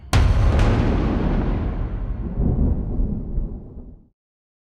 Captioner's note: thunder